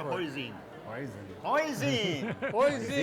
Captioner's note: all chuckle